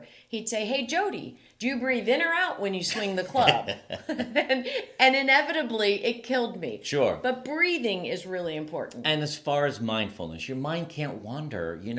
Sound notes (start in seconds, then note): 2.9 laughs